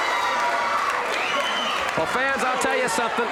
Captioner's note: audience cheers